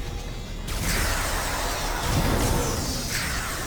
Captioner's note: explosion